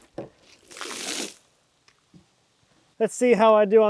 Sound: water splashes

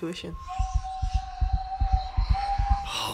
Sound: fast heart beating

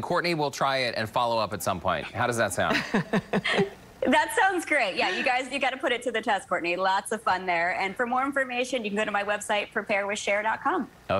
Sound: laughter

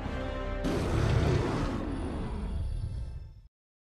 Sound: roar

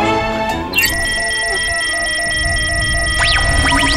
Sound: beeping

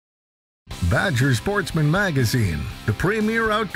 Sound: voiceover

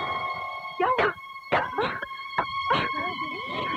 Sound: coughs

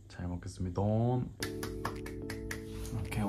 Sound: clap

